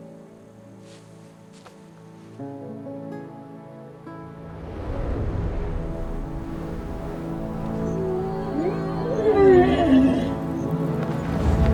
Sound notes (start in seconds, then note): 5.7 wings flapping; 7.9 roaring